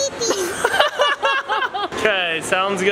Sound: laughing

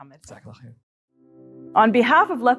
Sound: speaking Arabic; pleasant instrumental music

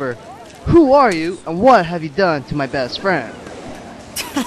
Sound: chuckle

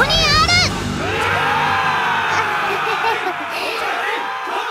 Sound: woooooo!

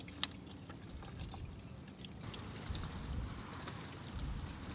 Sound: water lapping softly

